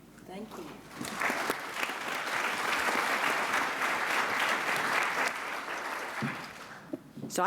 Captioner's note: applause